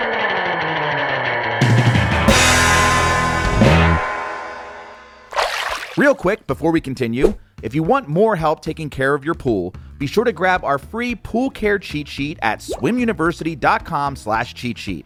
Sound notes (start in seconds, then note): 1.7 funky music; 5.3 water splashing